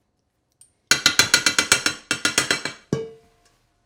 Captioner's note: tapping